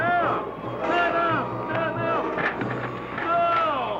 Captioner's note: yelling